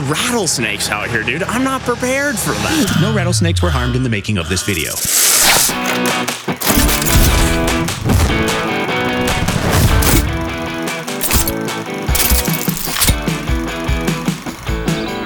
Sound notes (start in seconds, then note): 4.6 rattlesnake hisses; 6.4 lively music